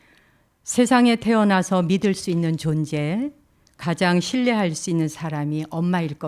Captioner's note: speaking in Korean